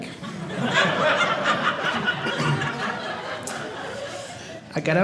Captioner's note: audience laughing